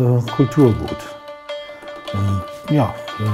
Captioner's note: stringing sounds